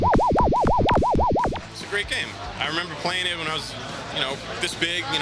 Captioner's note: arcade sounds